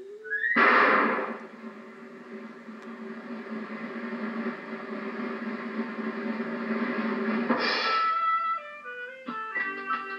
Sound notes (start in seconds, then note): 0.5 bang; 6.9 thud